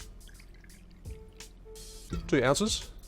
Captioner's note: rum pouring